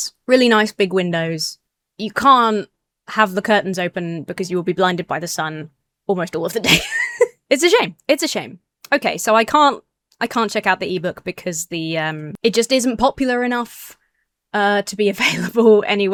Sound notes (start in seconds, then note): 6.6 laughs